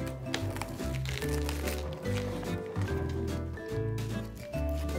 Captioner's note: cabbage crunching